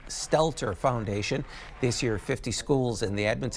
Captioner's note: applause